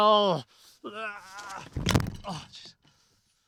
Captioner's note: grunting